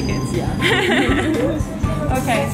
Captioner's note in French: rires